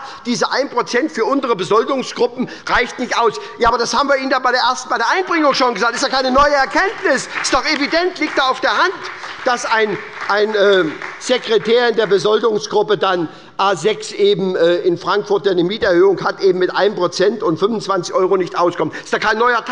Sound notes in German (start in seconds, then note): 7.0 Beifall bei der SPD